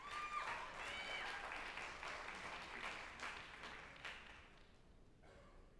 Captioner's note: group applauding and cheering